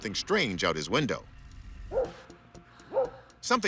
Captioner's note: dog barks